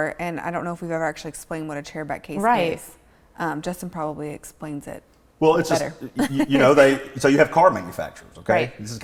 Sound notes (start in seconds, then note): 6.1 laughs